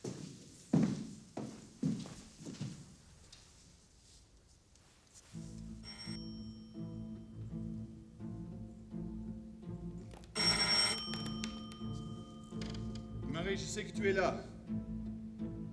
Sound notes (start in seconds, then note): 5.7 doorbell ringing; 10.1 doorbell ringing